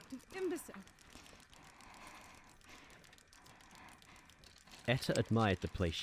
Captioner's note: etta's breathing slows